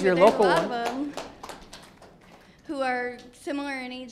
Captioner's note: audience applauds